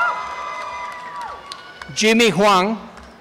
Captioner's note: applause and cheering